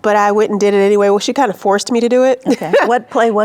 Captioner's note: laughs